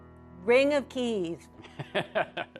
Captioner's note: laughs